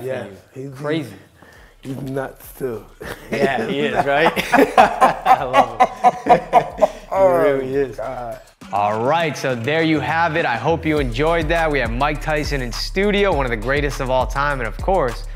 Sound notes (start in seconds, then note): 3.0 both laughing